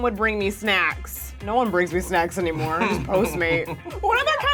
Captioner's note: laughs